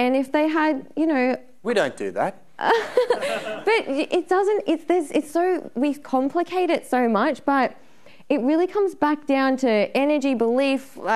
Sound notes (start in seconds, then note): 2.7 laughing; 2.8 audience laughing